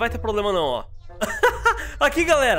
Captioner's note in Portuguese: risos